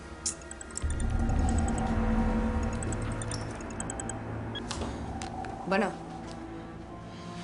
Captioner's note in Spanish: Suena el celular